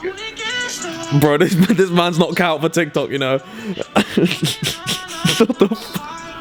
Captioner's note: laughs